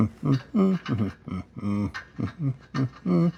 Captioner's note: humming